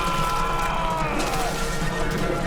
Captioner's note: splashing